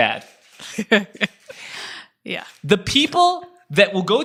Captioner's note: laughs